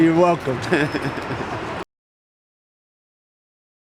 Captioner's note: laughing